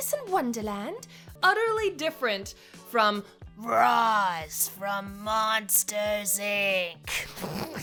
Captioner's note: laughs